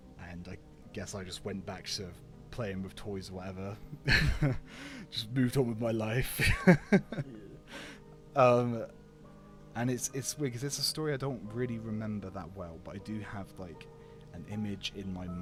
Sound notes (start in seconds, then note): 4.0 laughs; 6.4 more laughter